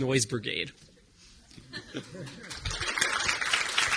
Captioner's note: audience chuckling; audience applauding